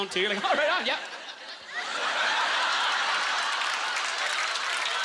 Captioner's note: audience laughter; applause